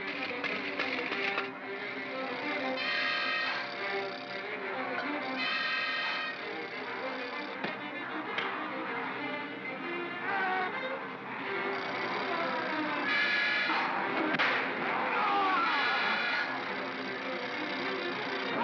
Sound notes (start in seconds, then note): 0.0 propeller clatters & whirrs; 3.1 propeller whirrs; 3.1 suspenseful music; 7.6 crack; 10.2 Barnaby yelps; 10.6 propeller whirrs; 11.8 suspenseful music; 14.3 loud pop; 14.8 Bogeyman screams; 16.3 propeller whirrs; 16.3 suspenseful music